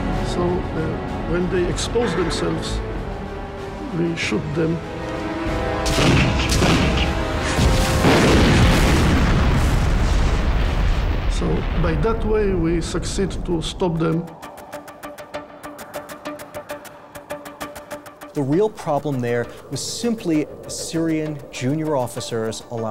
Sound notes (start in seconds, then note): 5.8 explosions booming; 14.7 suspenseful music